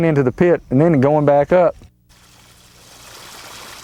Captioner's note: water splashing